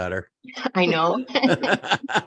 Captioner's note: laughs